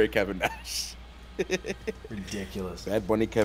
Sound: laugh

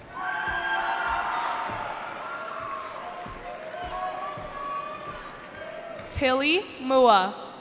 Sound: cheering

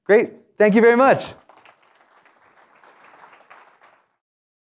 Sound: applause

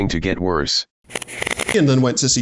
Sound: robot voice; backwards crackling

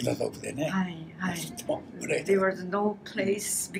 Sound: foreign language

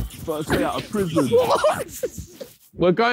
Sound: laughing

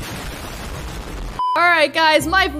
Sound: nuclear explosion

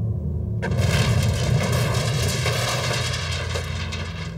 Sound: explosion booms

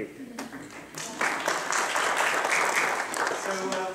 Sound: applause

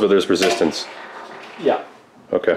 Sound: mover whirring

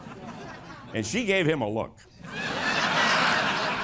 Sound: laughter

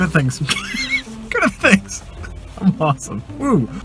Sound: laughing

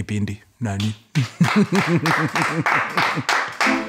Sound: clapping

